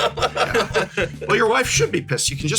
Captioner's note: laugh